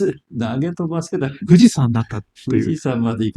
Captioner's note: laughs